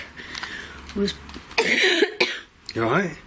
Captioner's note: coughs